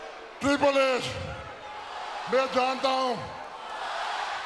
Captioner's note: speaks Hindi